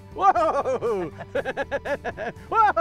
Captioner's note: laughter